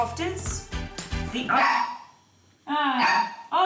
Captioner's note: dog barks